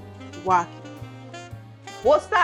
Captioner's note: voiceover